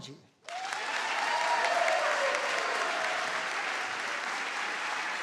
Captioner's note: audience applauds